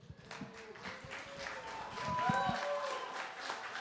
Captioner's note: cheering, applause